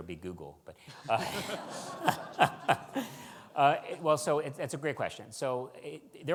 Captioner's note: audience laughs